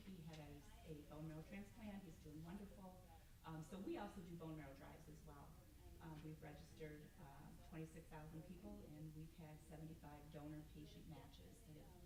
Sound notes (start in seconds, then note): none